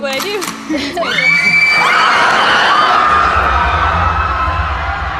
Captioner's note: gun cocks; people screaming